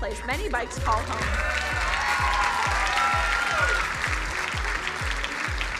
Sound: crowd cheering and applauding

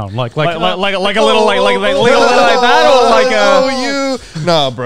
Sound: group chattering

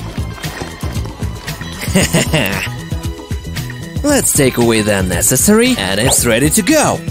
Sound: with sarcasm

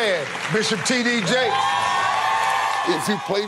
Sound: audience cheering

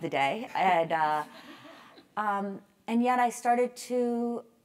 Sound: laugh

